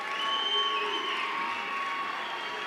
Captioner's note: cheers and applause